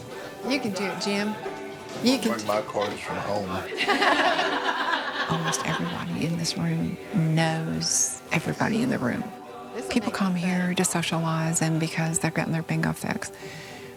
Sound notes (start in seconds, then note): 3.6 laughing